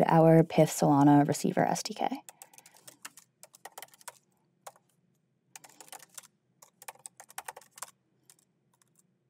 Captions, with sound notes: our PYTH Solana receiver SDK. (keyboard clacking)